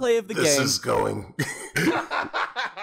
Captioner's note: laughter